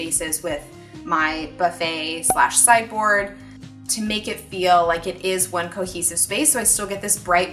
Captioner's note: cork pop